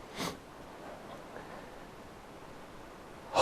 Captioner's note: sniffs